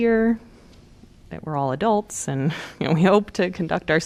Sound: laughter

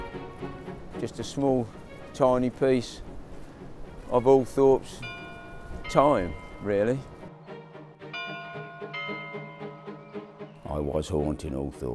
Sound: stable bells

